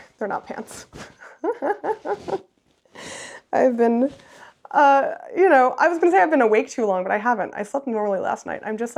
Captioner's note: laughs